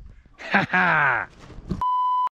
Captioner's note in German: Lachen